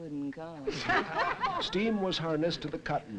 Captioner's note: group laughing